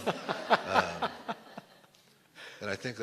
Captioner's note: laughter